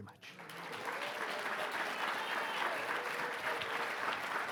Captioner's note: audience clapping